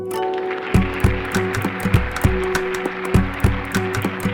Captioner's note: audience applauding; upbeat music